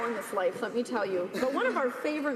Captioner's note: applause